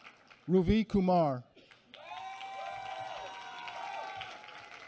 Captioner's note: applause